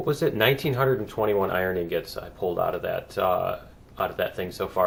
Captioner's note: none